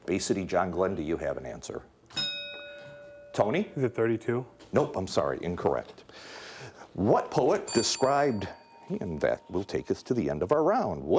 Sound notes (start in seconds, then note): 2.1 bell ringing; 7.6 bell dinging